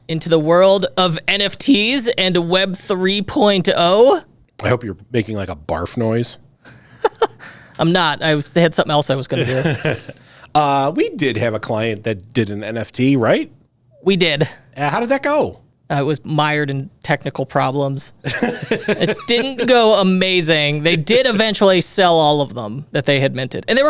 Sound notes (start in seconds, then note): 6.6 chuckles; 9.4 laughs; 18.2 laughs